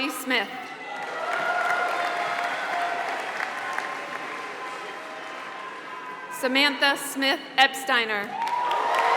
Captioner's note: applause; applause